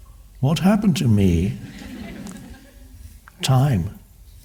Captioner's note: crowd laughs